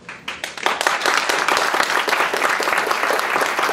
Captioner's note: applauding